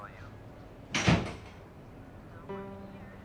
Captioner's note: door closing; clattering